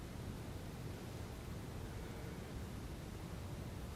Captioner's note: sighing